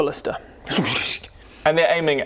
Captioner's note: tsshsssht